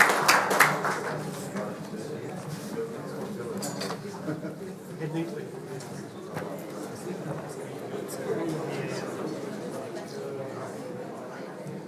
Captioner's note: applause